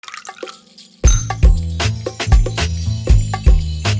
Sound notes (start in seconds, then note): 0.0 coffee pours; 1.0 upbeat music